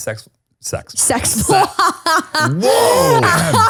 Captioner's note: laughs